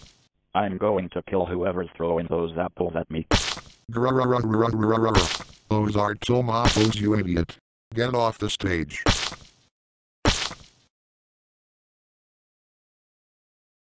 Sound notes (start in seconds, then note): 0.0 more tomatoes being thrown; 3.9 Microsoft Sam growls in frustration and throws another tomato